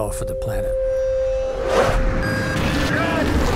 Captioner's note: air whooshing